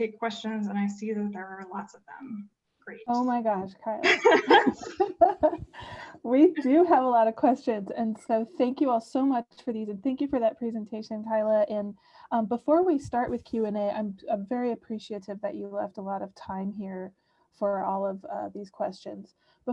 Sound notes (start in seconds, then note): 4.0 laughter